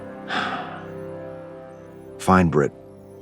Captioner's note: Cecil sighs